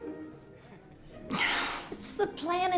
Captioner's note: sighs